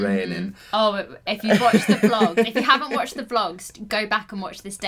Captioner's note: laughing